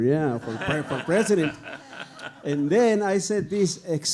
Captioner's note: audience laughing